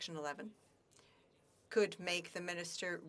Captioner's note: speaking French